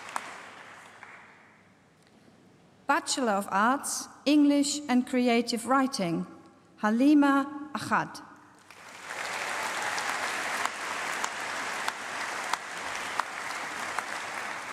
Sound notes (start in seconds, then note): 8.6 applause